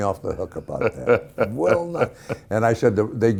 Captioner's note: Ken Howard laughing